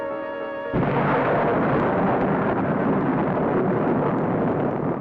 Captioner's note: thunder cracking